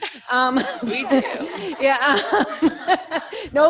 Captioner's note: laughter